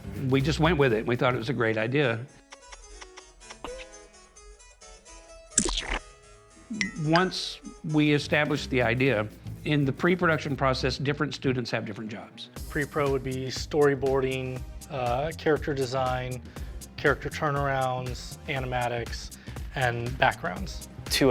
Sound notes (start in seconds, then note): 2.4 smooching sounds; 3.2 harpsichord music; 5.6 splat; 8.7 low jazz music